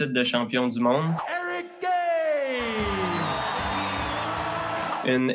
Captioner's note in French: applaudissements